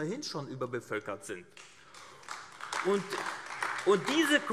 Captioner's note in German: Beifall AfD